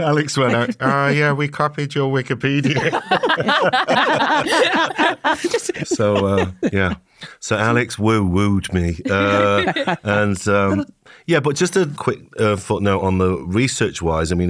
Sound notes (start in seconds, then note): 2.6 all laughing